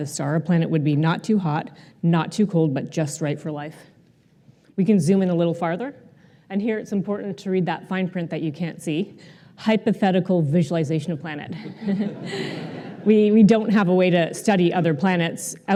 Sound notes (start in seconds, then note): 11.6 laughter